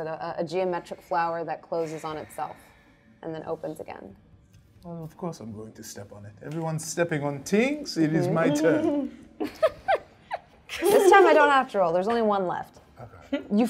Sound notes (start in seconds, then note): 8.6 all chuckling